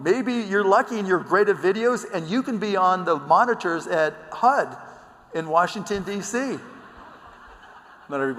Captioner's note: laughter